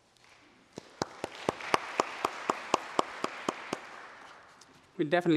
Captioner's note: applause